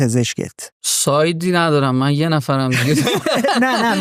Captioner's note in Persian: خنده